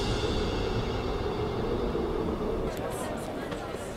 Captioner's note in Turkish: Rüzgâr sesi; Pazar ortam sesi